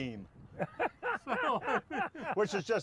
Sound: men laugh

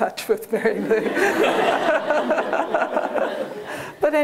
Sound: laughter

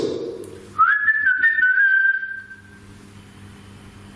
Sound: whistling

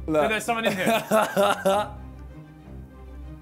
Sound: laughs

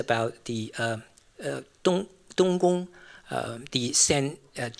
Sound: non-english

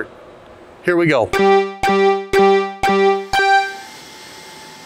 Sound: beeping; machine buzzing

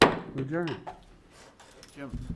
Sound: gavel bangs

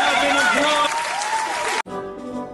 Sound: cheering and clapping

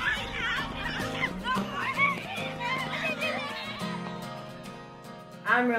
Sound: kids talking and screaming

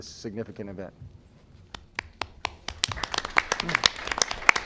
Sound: applause

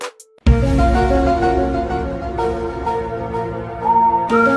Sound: conspiracy sound

